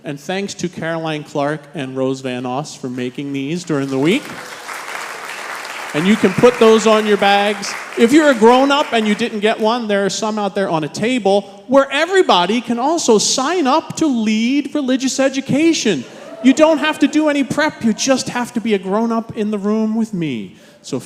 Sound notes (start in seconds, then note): 3.6 congregation applauding